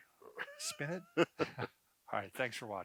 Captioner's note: laughing